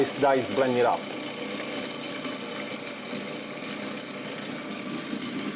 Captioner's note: food processor grinding